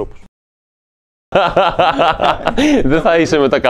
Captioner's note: loud laughs